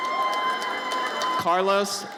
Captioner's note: audience cheers